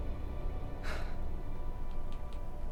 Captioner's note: Colin sighs